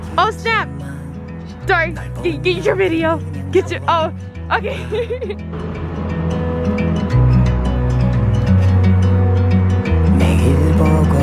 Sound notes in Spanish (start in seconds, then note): 4.4 se ríe; 8.3 música extranjera